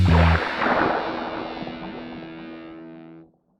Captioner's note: splash